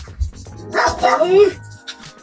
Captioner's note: my dog barking